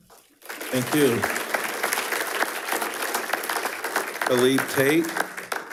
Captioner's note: attendees applauding